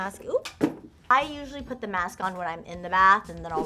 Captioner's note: item falls on ground